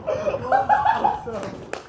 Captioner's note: monkey intensifies